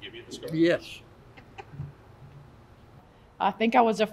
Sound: laugh

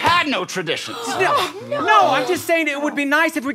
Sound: gasping

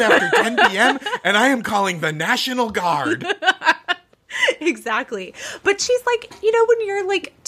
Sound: laughing

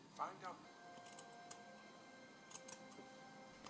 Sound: snip snip

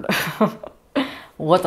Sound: laughter

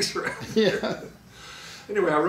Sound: laughing

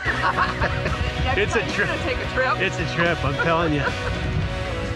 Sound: laughter

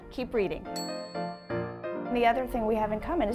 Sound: ding

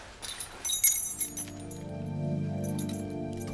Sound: keys jingling

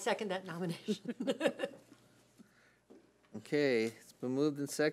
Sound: laughs

